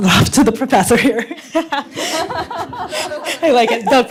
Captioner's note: laughs